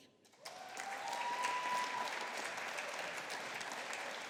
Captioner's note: audience applauding